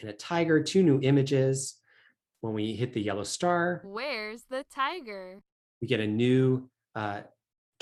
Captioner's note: experiment audio plays "Where's the tiger?"